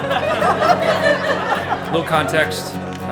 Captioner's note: crowd laughs